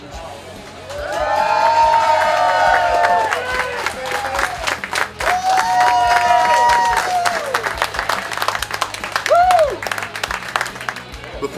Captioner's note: cheering & Clapping